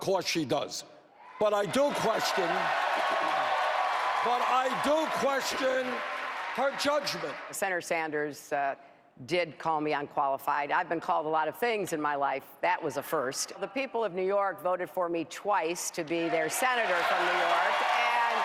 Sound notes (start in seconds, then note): 8.1 cheers